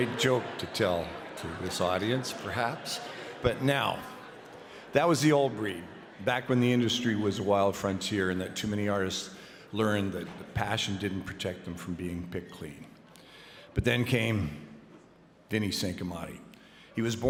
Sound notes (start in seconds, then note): 0.0 laughter; 2.6 applause